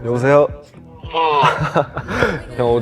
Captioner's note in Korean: 졸린 소리